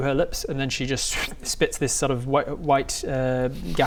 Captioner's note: pwft